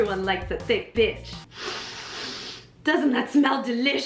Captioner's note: noises of deep smelling